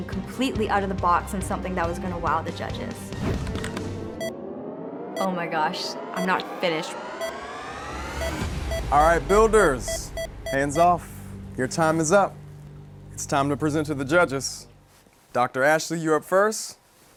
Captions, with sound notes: completely out of the box and something that was going to wow the judges. Oh my gosh, I'm not finished. (timer beeping) - Alright, builders, hands off. Your time is up. It's time to present to the judges. Doctor Ashley, you're up first.